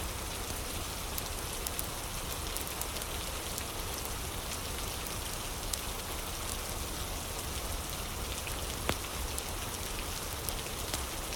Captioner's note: fire crackling